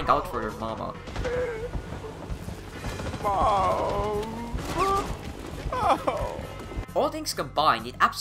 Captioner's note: soldier sobbing